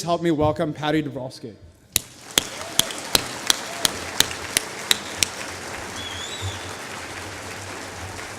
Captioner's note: applause